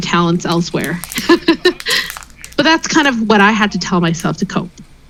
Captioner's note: laughs